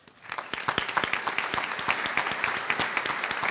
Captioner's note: applause